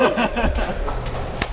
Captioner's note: laughter